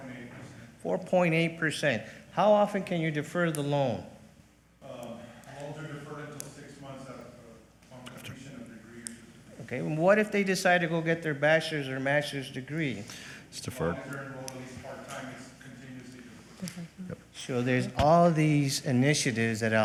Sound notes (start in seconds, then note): 16.4 speaking faintly